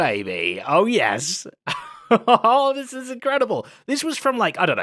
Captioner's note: laughs